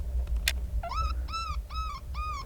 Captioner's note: gun clicks